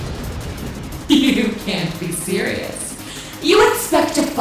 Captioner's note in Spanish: Risas